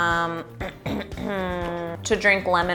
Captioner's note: clears throat